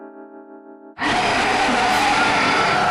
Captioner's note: roars